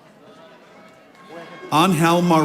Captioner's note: audience applauding